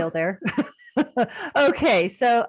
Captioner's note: chuckling